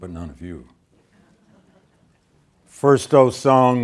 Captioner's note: students laughing